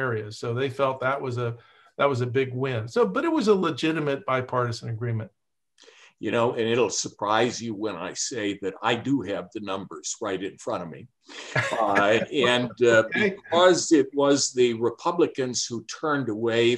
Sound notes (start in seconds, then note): 11.4 laughs